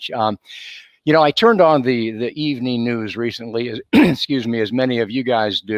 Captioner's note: clears throat